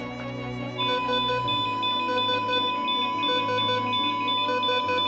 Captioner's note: heart monitor alarm beeping; heart monitor beeping